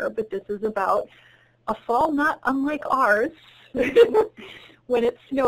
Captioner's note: chuckles